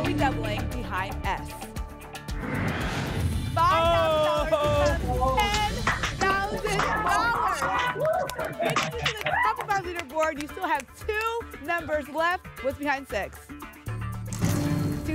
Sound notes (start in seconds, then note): 2.3 whoosh; 7.3 applause and cheering